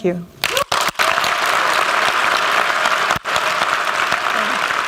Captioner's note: applause